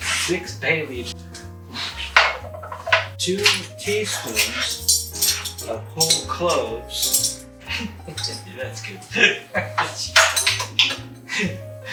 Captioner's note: laughs